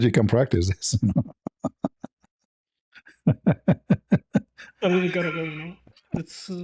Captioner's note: laughter